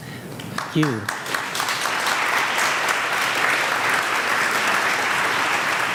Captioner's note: audience applauds